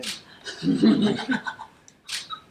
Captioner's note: background laughter